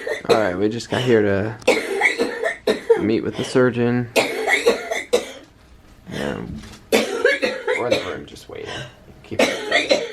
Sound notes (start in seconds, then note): 4.0 coughing